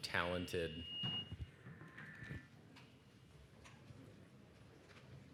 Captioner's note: microphone screeches